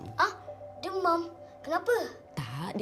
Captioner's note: in Bahasa Melayu